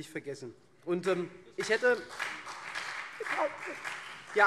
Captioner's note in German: Beifall SPD und vereinzelt CDU